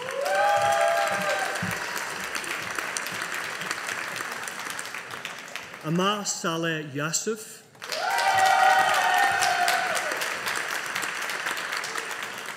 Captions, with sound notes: (AUDIENCE APPLAUDING) Aamar Saleh Yasouf. (AUDIENCE APPLAUDING)